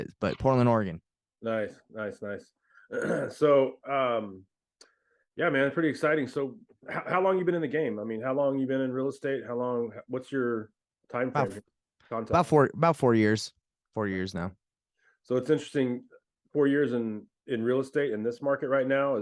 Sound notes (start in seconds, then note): 2.8 clears throat